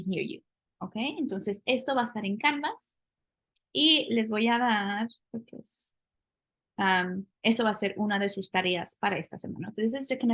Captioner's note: speaking spanish